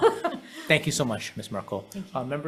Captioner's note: chuckles